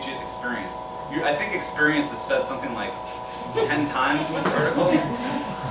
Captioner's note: laughter